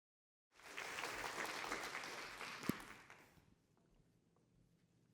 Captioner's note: applause